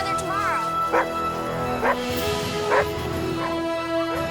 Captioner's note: dogs barking